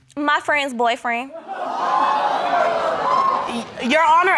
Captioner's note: audience gasps